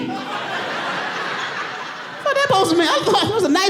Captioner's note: audience laughing